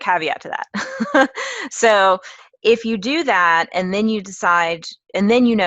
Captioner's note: laugh